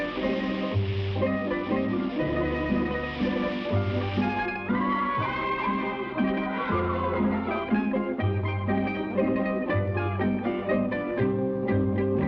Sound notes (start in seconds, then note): 0.0 fireworks hiss; 0.0 solemn guitar music; 5.0 boys shout